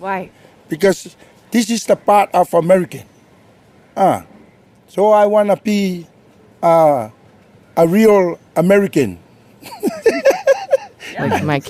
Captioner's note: laughs